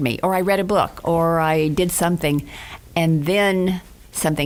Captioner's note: none